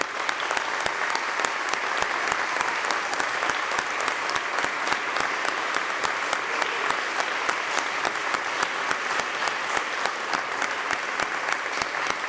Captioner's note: applause